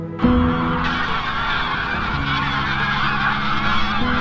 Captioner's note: sound of geese